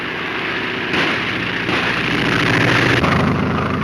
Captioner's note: gunshots; airplane engine roaring